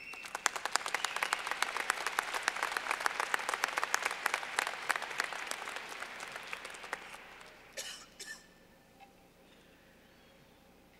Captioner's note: clapping